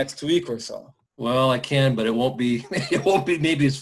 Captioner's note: laughs